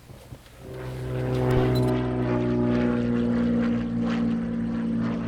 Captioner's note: plane engine roaring